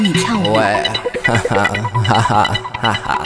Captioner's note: ha ha